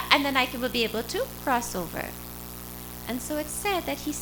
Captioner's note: none